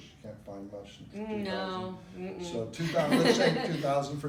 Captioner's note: laughs